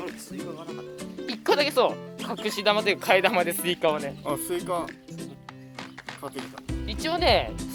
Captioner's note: laughs